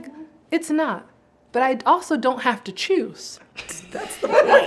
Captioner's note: laughs